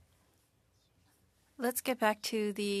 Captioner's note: speaking French